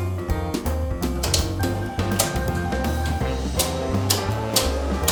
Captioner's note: switches clicking